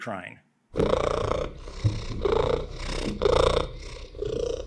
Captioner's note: cat purring